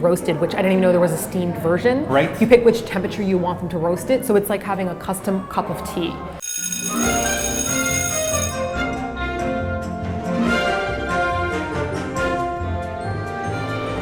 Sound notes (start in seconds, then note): 6.4 school bell rings